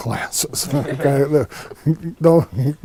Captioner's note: laughing